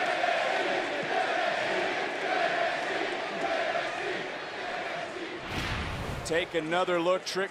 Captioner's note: crowd chants "nxt"